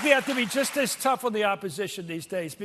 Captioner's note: applause